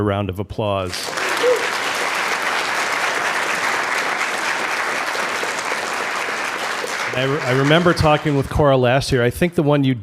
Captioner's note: applause